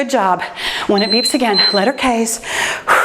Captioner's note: timer beeps